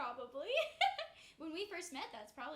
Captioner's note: laughs